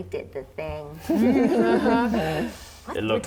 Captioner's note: laughing